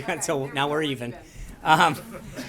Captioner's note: laughter